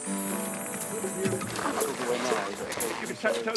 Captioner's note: photographers chattering